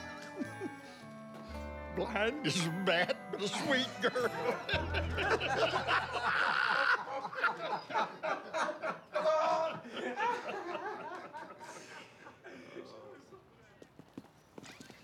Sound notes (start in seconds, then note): 0.1 giggling; 4.7 laughter